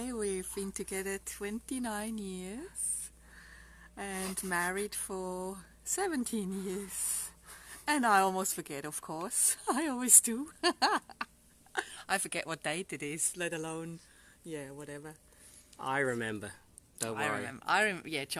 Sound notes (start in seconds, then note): 10.3 laughs